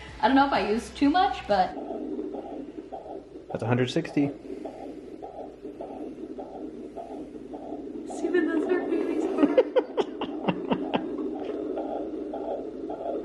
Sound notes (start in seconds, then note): 4.7 doppler machine swooshing; 9.5 doppler machine swooshing